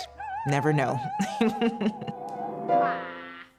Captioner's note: laughs